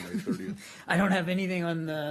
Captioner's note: laughter